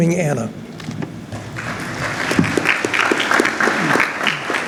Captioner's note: clapping